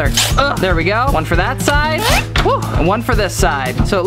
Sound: sighs

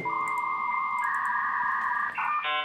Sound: high speed internet sounds

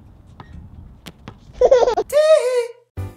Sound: baby laughing sound

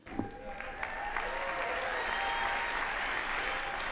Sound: applause

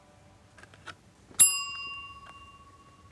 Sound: bell

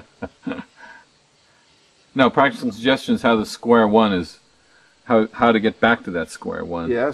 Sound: laughs

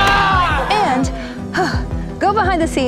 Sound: players cheering; sighs

